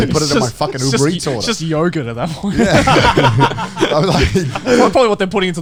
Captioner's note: laughs